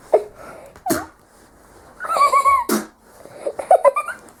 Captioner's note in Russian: плюется